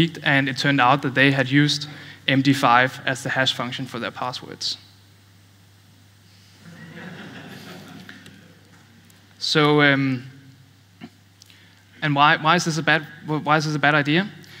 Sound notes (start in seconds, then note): 6.6 laughter